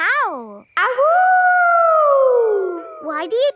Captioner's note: howling